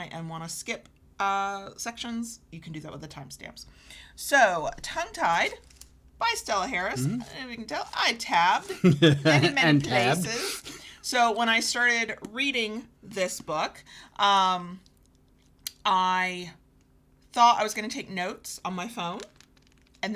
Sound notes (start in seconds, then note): 8.6 chuckles